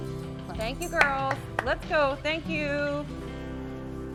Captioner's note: clapping